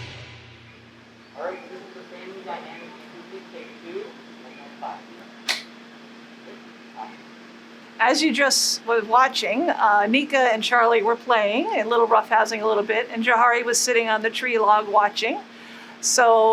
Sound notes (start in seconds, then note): 5.4 clap